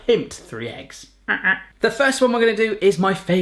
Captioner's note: honking